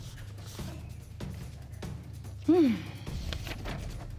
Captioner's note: sighs